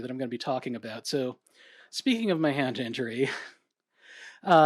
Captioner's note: chuckles